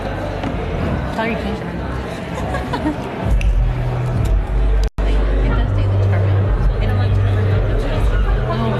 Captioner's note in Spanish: voces